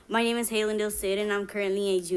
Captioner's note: foreign language